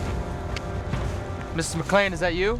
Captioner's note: footsteps approaching